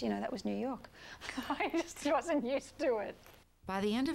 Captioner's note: laughing